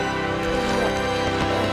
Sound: groaning

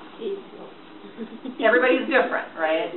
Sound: voiceover; giggles

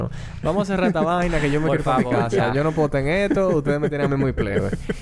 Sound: laughs

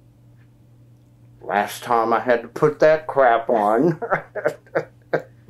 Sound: laughs

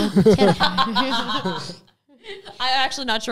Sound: all laughing gently

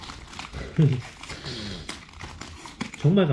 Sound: laughing

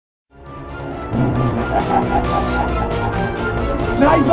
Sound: then laughs

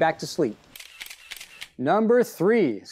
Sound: shutters clicking

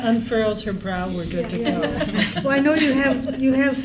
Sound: laughs

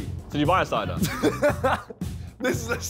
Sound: all laughing

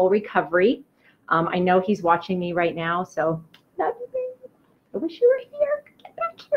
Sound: blows kiss; quietly

